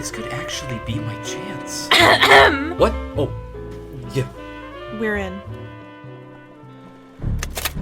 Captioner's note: Remy clears their throat